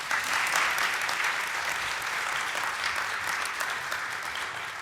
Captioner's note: applause